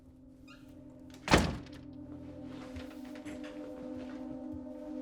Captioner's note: door closes